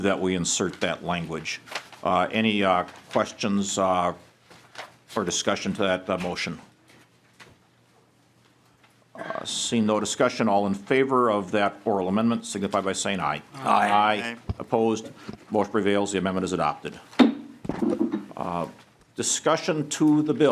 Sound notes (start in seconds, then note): 16.3 chorus of ayes